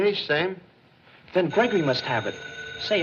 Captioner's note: phone Rings